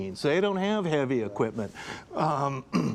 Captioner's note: clears throat